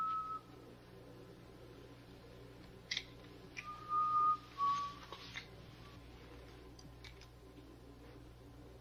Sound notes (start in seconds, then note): 3.1 keys clinking